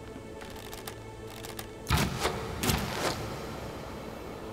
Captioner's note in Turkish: Ok atma sesleri